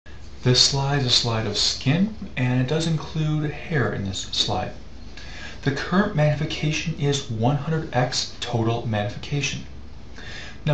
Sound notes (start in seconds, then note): 0.6 voiceover